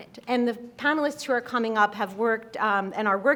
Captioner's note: none